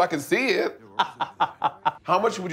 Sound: laughing

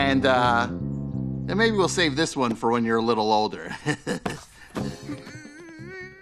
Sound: chuckles

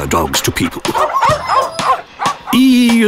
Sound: barking

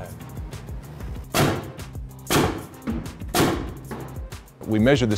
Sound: balls shooting

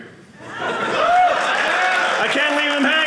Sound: audience cheering

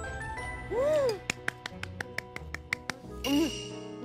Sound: applause

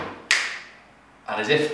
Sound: snapping

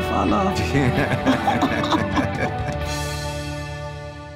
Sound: both laughing

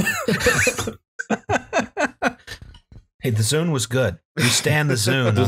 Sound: laughter

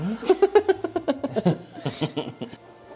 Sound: embarrassed Laughter

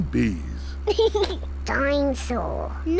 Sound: snorts; laughs

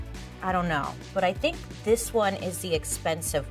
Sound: none

